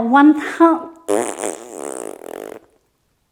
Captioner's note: blowing Rasberry